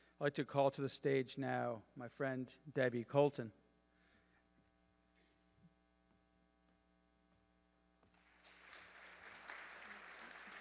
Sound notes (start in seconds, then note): 5.9 audience applauding